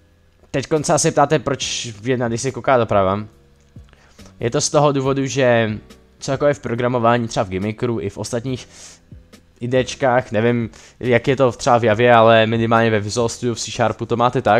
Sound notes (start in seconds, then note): 8.6 breaths in